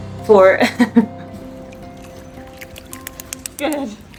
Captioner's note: background music; laughs; soft sound of sea otter tapping paws; water splashing sounds